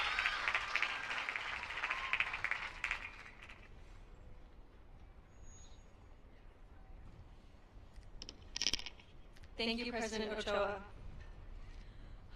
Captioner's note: applause